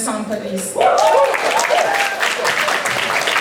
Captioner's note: applause